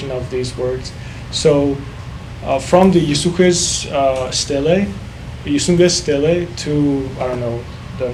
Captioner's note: speaking foreign language